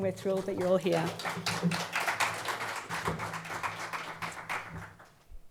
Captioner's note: audience applauds